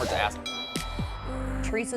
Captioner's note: bell dings